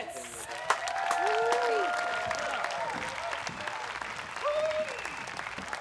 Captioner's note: audience cheers and applauds